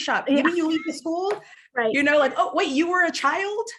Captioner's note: laughs